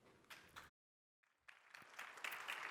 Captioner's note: applause